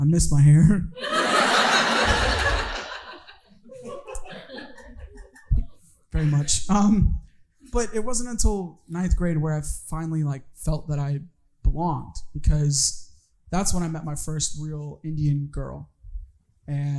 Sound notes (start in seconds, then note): 1.0 audience laughing